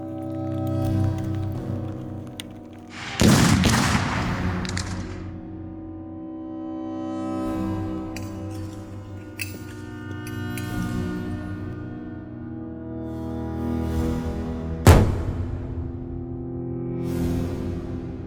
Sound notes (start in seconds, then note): 0.2 intense music; 3.2 cannons booming; 14.9 war drums pounding